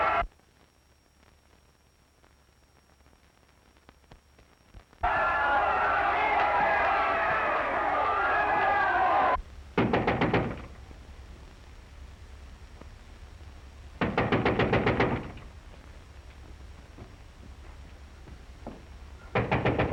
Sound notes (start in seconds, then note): 5.0 all screaming; 9.8 knocking on door